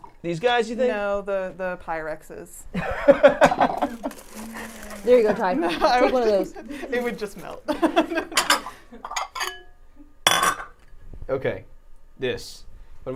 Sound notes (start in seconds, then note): 2.8 laughs; 7.9 utensils clanking